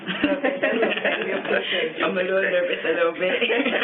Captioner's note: laughs